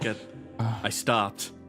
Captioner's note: Straga Sigh